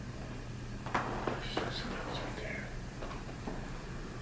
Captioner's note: whispers